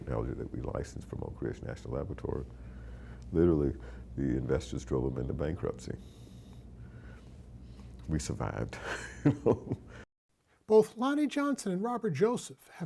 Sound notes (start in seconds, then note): 8.8 chuckling